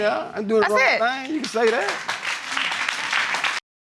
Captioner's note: applause